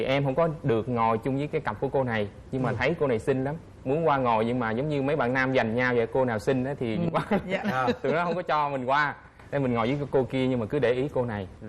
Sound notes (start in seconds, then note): 7.0 laughing